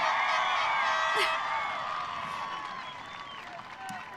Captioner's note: audience cheering